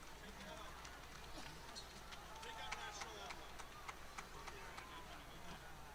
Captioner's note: applause